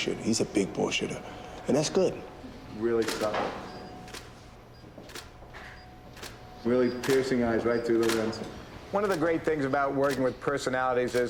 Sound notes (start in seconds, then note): 3.1 camera clicking